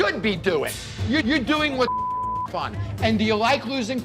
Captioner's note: beep